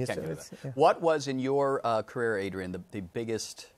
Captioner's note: none